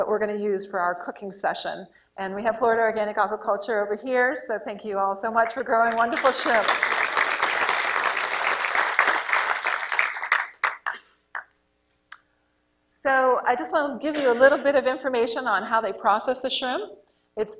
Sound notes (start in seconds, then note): 10.7 applause